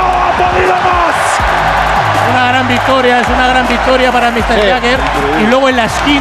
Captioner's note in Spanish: Gritos